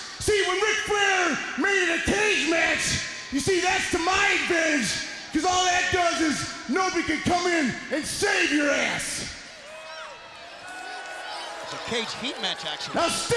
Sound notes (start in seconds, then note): 9.4 crowd boos